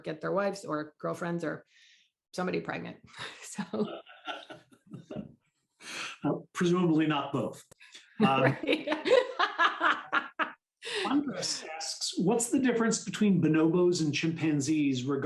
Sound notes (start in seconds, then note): 8.2 laughter